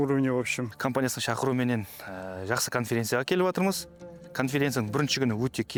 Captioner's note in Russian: на казахском